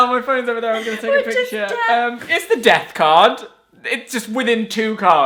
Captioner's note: laughing